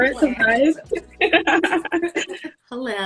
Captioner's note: laughing